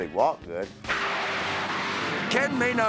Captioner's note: jet blasting